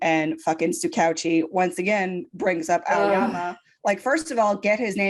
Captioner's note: groans in disgust